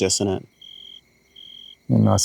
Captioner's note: crickets chirping